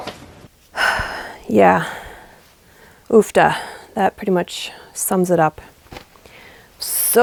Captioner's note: sigh